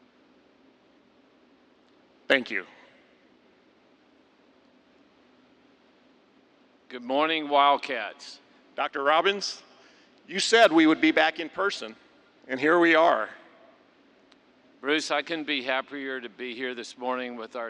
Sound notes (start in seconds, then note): 0.0 silence